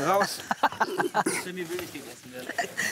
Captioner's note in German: Ina lacht